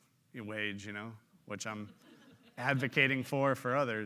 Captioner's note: audience laughing